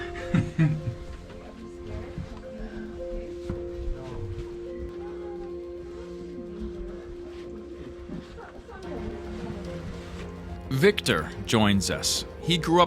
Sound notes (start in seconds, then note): 0.1 peaceful music; 2.1 background chatter